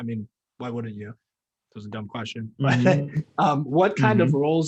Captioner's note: laughing